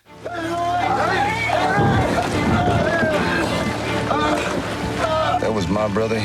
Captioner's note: chaotic commotion